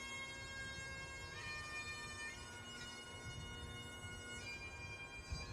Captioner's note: somber bagpipe music continues; wind rustling; somber bagpipe music continues